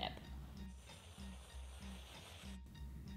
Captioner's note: whooshing